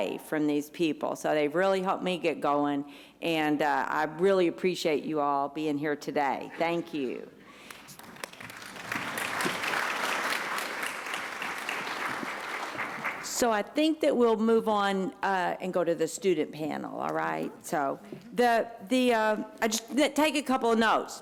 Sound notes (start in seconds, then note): 7.6 applause